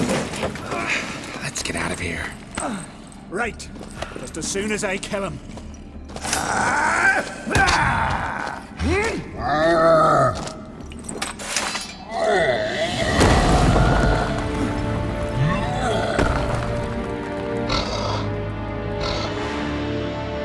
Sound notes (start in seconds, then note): 10.0 growl; 13.2 loud thud; 17.6 grunt; 18.4 heavy breaths